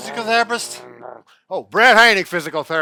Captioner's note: imitating a motorcycle